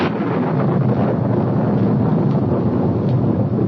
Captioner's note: thunder